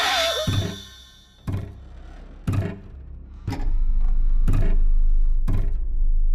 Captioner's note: sudden screeching music; object thudding rhythmically; soft tense music